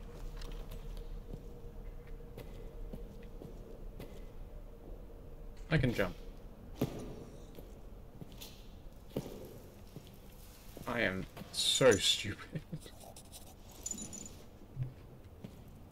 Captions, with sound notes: I can jump... I AM. SO STUPID! *nervous laughter*